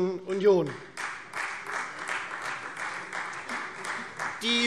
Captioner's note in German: Beifall Freie Demokraten